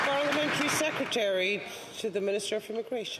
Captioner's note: some Applause